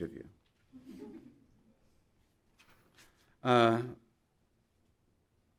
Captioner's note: audience laughing